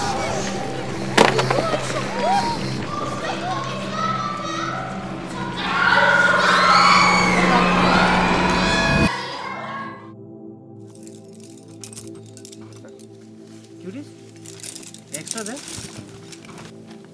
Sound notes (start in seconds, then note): 1.6 people crying for help